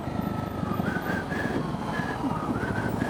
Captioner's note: whistles